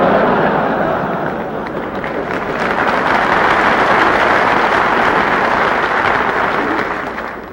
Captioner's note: laughter and applause